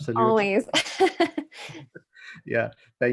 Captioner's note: laughs